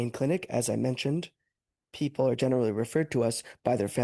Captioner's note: speaking French